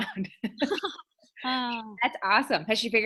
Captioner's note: chuckling